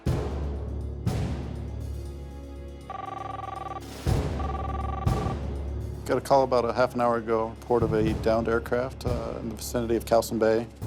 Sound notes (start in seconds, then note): 0.1 dramatic music; 2.9 telephone ringing